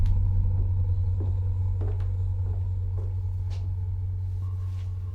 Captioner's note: heels clacking